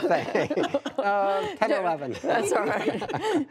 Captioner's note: laughter